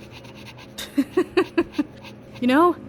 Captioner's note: laughing